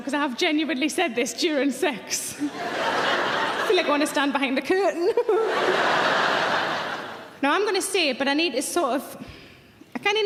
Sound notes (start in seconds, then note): 2.4 audience laughing; 5.3 audience laughing; 5.3 giggles